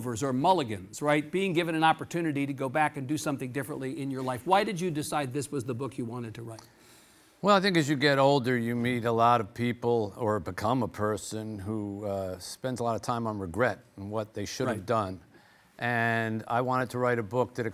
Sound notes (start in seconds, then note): none